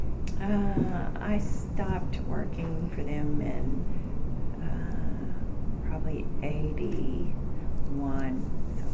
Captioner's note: whispering